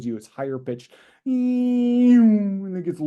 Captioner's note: descending pitch